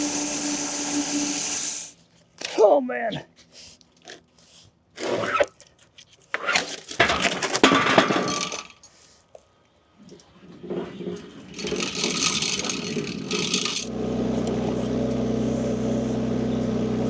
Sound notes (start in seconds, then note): 4.6 wood thudding; 6.6 wood clanging; 10.6 log saw rattling; 14.1 machine rumbling